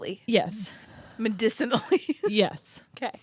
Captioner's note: laughs